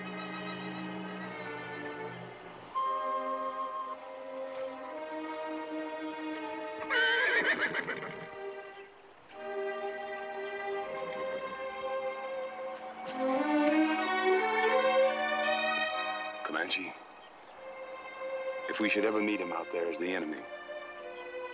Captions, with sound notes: [Tonka whinnies] Comanche, if we should ever meet him out there as the enemy,